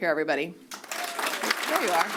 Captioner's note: applause